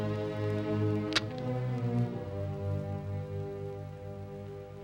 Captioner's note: gun clicks